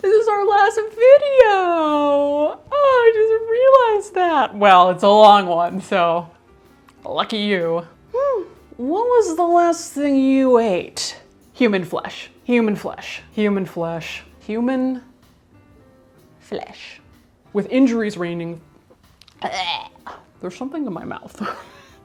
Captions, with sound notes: This is our last video, I just realized that, well, it's a long one, so lucky you. What was the last thing you ate? Human flesh. Human flesh. Human flesh. Human flesh. With injuries ranging (gags). There's something in my mouth.